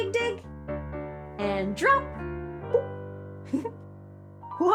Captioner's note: giggles